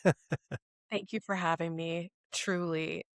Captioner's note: laughs